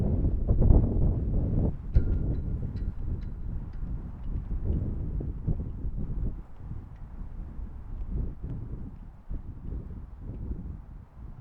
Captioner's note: wind howling